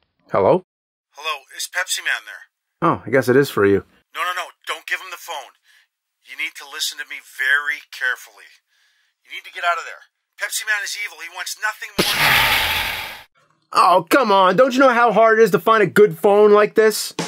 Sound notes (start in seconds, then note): 12.0 pshaaa!